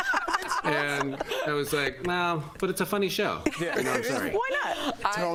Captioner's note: laughter